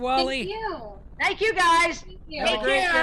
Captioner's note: murmurs